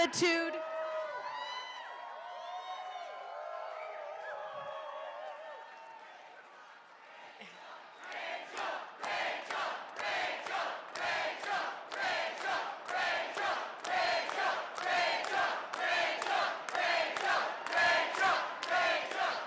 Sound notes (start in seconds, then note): 7.1 cheers and applause; 15.4 chanting rachel